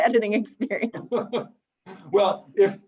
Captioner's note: laughs